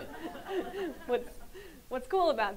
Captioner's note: audience laughs